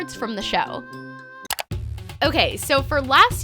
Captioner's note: clicking